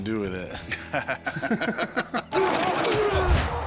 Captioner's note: laughter